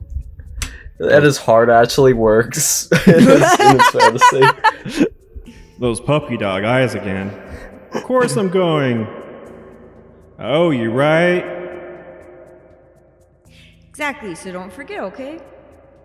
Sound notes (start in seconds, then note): 2.9 everyone has a hearty laugh